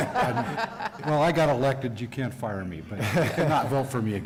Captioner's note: laughter